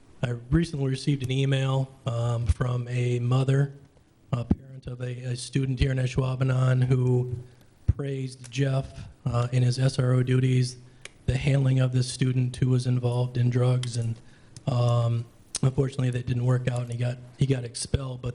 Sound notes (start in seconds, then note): none